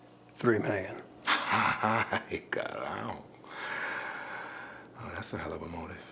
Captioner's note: laughs; speaks in Spanish